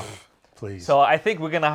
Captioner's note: scoffs